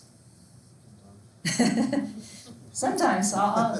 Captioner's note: laughs